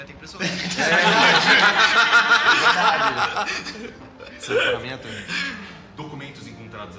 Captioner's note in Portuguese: risadas